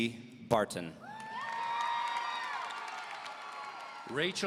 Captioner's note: audience cheering; audience applauding